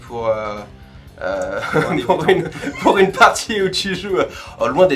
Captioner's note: laughs